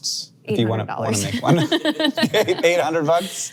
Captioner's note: laughs